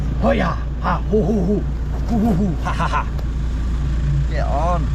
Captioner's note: vocalizing